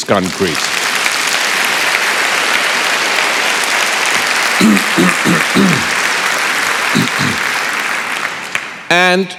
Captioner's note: applause